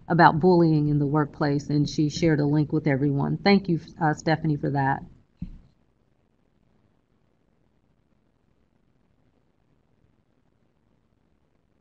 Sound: silence

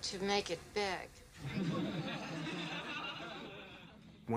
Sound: laugh

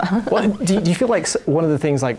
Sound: laughing

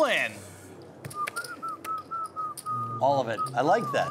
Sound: whistling

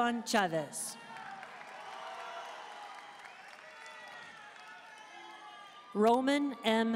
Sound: audience cheering and applauding

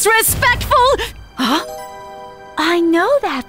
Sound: Hana gasps

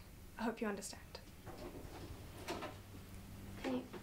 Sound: door opens

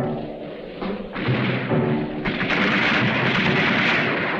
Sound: guns firing

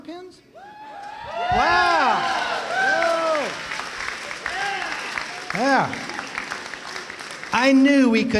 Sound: cheering

